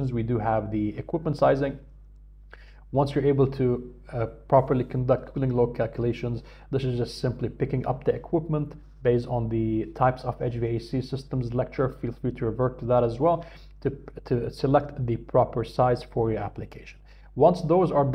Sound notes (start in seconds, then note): 11.9 hvac